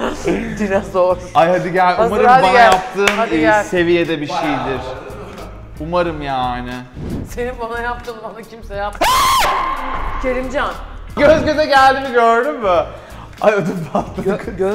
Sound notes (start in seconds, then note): 9.0 screams